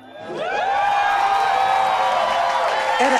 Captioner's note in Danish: Applaus fra publikum